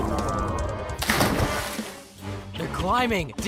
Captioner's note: splash